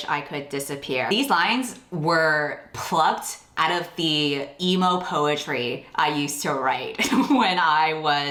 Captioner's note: laughs